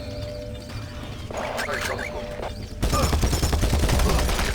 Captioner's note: gunshots